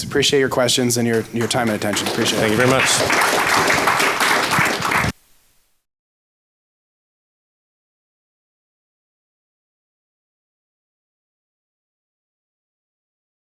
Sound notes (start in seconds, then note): 3.5 audience applauds